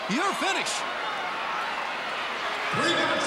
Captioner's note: crowd cheering